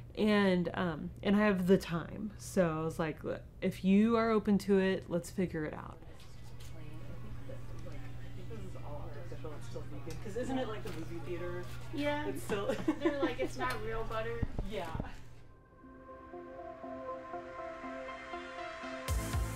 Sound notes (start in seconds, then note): 6.2 muffled conversation; 15.7 dynamic music